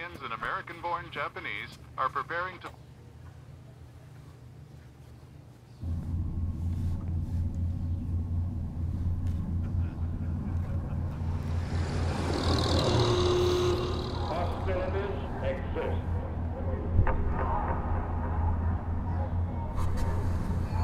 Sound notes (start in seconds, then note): 2.7 radio stops; 9.3 distant echoing laughter; 11.0 horn blares; 11.9 loud car engine; 16.8 echoing